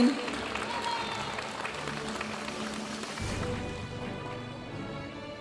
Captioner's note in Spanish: aplausos de la audiencia